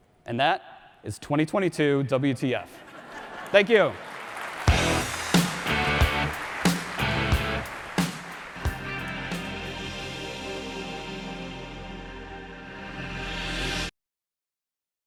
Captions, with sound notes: And that is 2022 WTF. (audience laughs) Thank you. (audience claps) (rock music) (futuristic music)